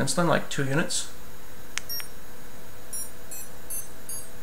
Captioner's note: 4 fast escalating beeps